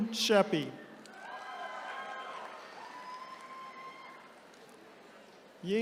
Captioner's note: attendees cheering